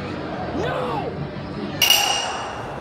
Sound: sobbing

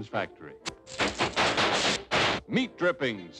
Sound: sparks

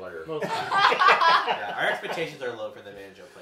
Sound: laughing

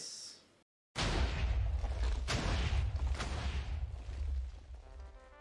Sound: Minecraft TNT in the background

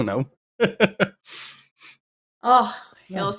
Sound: laughs

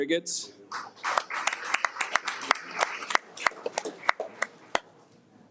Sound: audience applauds

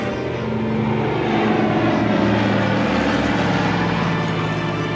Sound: plane engine roaring

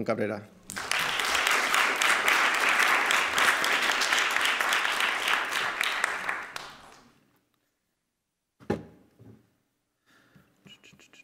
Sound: applause

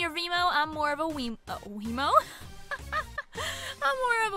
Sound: laughs

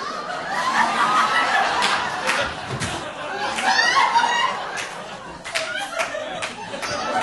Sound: audience laughing

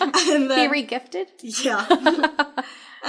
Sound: laughing

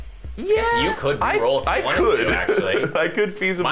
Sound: laughing

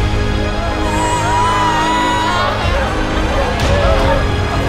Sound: intense music; wailing; intense music continues

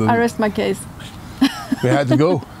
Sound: laughing

